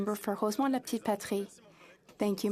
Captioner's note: speaking French